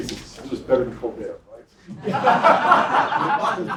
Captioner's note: laugh